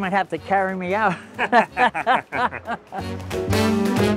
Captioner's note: both laughing; lively jazz music